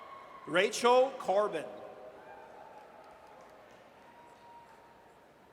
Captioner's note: audience cheers